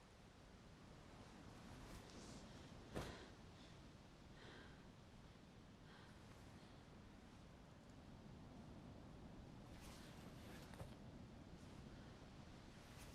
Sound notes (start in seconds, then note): 3.4 Ora pants